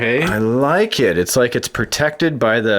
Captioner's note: voiceover